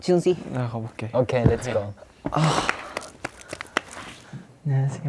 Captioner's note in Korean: 상담실로 향하는 무거운 발걸음